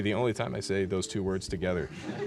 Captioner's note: laughing